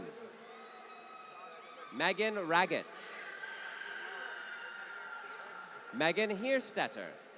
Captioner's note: applause